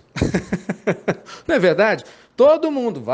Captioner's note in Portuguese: risadas